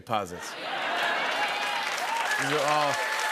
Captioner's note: cheers and applause